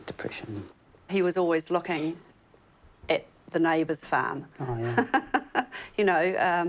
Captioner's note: laughs